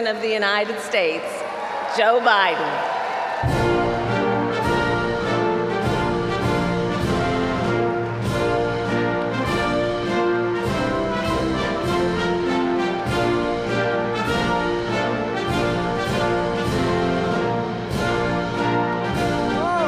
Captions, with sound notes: of the United States, Joe Biden. (Applause.)